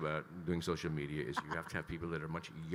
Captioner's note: laughing